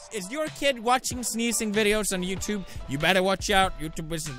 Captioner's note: none